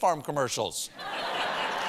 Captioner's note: laughter